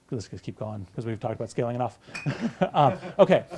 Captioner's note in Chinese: 大笑